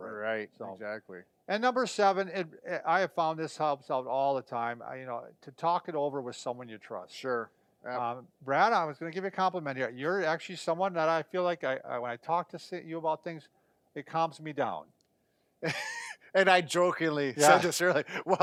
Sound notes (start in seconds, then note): 15.6 chuckles